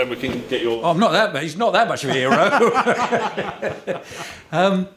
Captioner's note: laughter